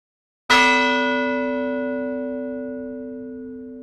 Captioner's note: bell gonging